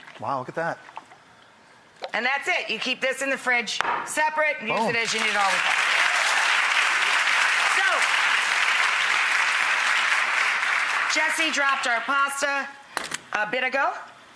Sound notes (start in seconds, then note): 3.8 jar thuds; 6.3 audience applauds